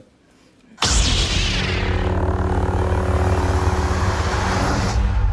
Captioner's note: lightsaber humming